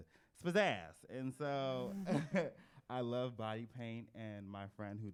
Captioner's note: laughs